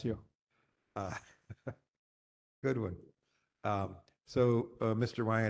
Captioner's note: laugh